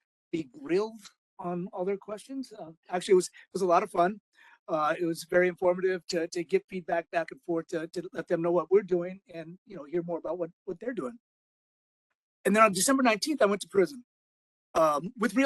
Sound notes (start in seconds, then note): none